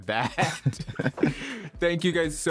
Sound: laughter

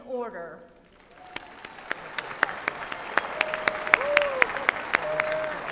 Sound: applause

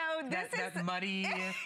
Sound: laughter

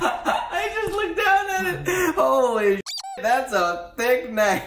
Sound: squeak

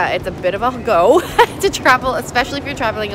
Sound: haha

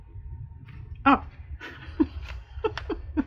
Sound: laughs

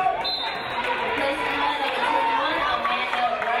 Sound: referee blows whistle

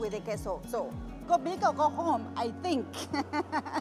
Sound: laughter

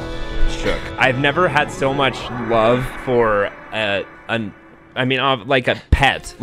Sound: stutters

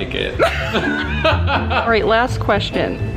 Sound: laughing

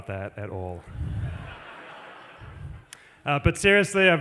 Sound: laughter

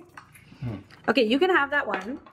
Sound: hums

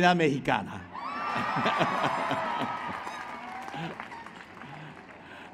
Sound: applause

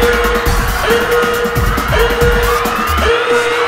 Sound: screams and panic

